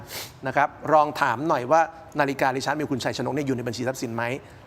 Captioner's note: takes a deep breath